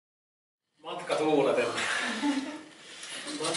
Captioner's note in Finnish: Naurahtelua